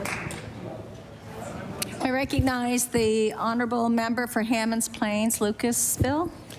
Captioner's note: applause